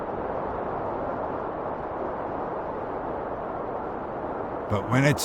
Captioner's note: wind whistling continues